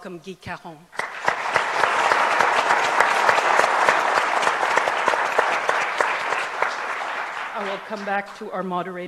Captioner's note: applause